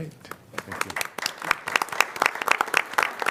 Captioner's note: applause